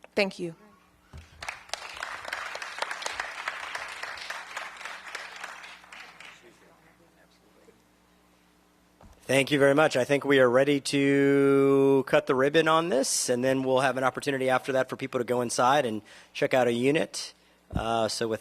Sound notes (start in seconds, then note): 4.9 applause